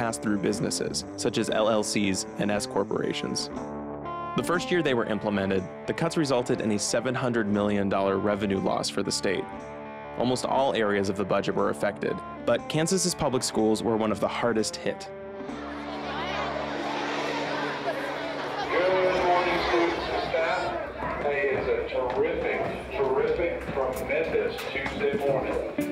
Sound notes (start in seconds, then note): 16.1 children playing; 19.0 man Over Intercom